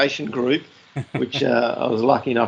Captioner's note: laughs